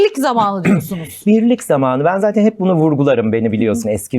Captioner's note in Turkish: boğazını temizler